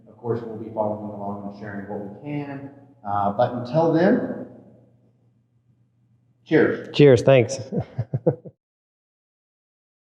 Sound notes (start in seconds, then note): 7.6 chuckling